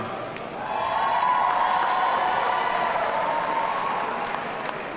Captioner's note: audience cheering